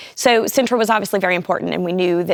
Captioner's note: none